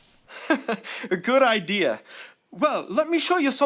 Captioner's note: chuckling